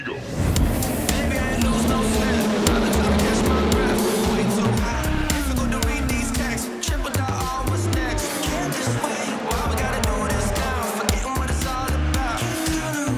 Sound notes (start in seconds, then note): 0.7 engines roaring; 0.7 upbeat music